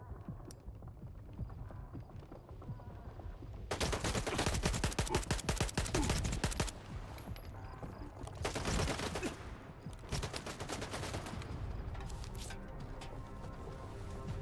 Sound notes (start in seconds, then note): 3.7 gunfire